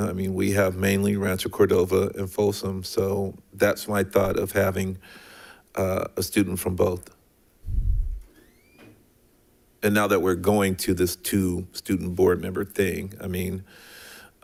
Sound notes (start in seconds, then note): none